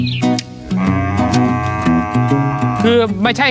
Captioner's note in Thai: เสียงวัวร้อง